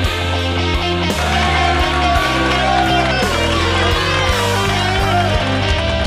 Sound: crowd applauding and cheering

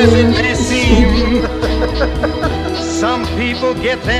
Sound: laughs

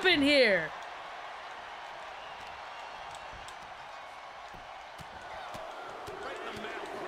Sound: applause

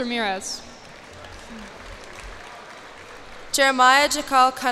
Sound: cheers and applause

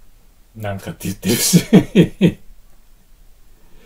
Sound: laughs

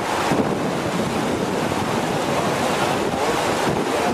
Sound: water rushing loudly

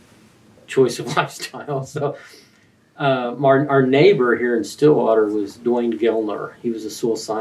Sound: laughs

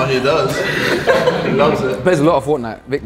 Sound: group chuckles

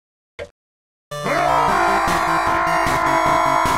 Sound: Peppino yells

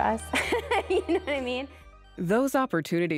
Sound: laughs

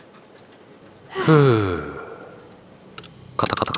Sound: sigh

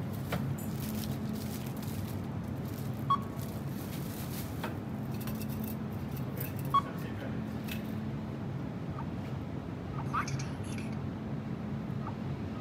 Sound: self checkout machine giving commands

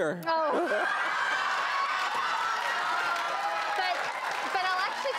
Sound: laughs and applause

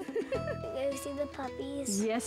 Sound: mixed Chuckles; chuckling

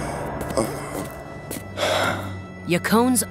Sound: sighing

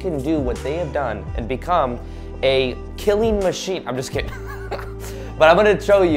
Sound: chuckles

